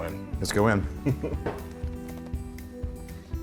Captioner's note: laugh